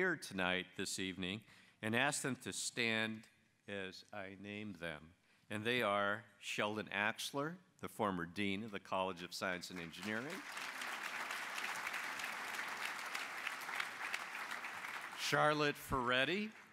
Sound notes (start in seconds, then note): 11.2 applause